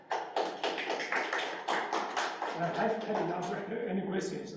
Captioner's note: students applauding